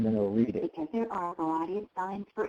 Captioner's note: computer Voice